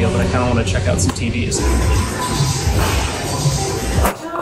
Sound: TV’s playing

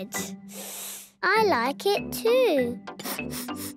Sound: sniffing; sniffs

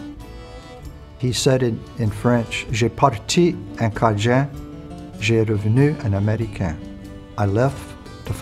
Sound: french here

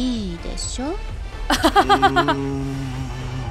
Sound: chuckles

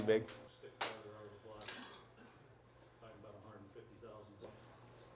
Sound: metal clangs

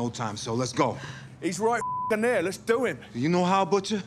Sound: beep

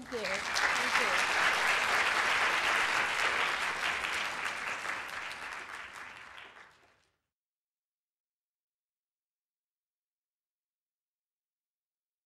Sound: applause

